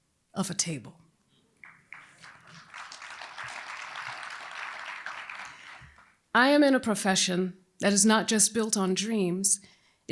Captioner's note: applause